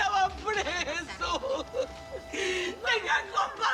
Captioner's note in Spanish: Sollozos